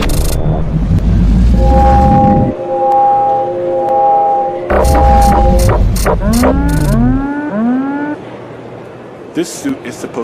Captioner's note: machine operates